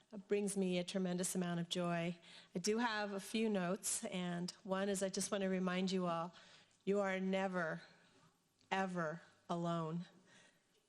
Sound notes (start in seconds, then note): none